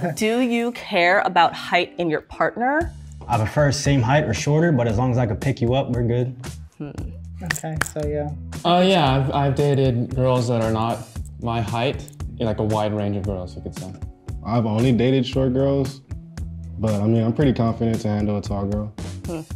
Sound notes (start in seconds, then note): 7.4 hands clap